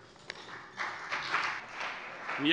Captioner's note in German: Beifall CDU und BÜNDNIS 90/DIE GRÜNEN